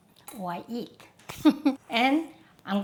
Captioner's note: chuckles